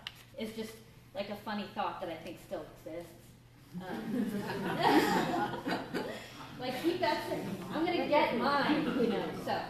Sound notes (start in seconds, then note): 3.8 laughter